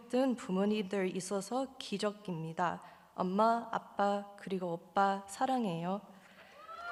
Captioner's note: speaking Korean; audience applauding